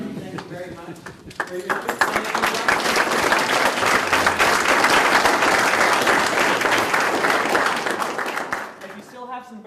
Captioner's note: audience applause